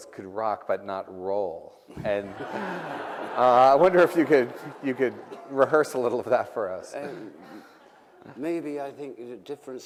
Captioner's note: laughter